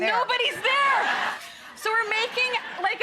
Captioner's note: audience laughs